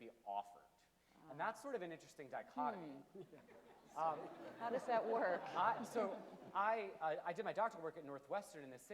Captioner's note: low laughter from audience; audience laughter increases